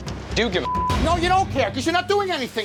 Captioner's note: beep